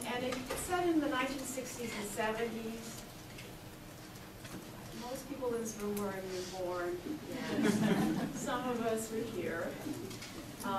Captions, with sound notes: And it's set in the 1960's and 70's. Most people in this room weren't even born yet. (audience laughs) Some of us were here.